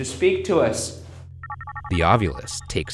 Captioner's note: device chiming